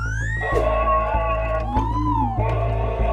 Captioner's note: angry droid noises